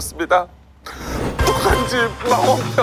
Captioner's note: inhale